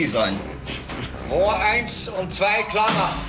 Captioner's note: speaking german